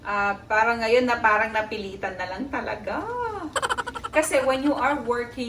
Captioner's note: laughing